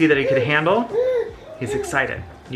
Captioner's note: baby makes excited noises